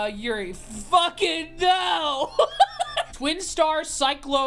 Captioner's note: laughs